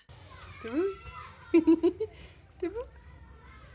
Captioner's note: giggling